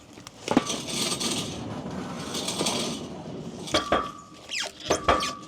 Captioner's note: wood scrapping; log saw rattling; wood clanging